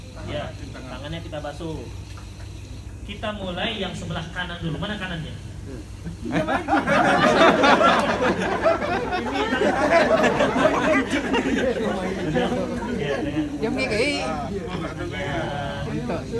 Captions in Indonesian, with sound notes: Ya, tangannya kita basuh. Kita mulai yang sebelah kanan dulu. Mana kanannya? Diam aja! (Jama'ah tertawa) (Jama'ah masih tertawa)